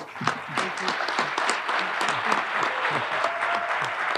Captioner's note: audience applauding